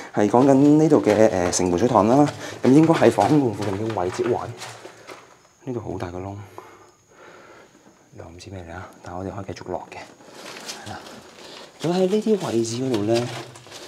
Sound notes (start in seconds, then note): none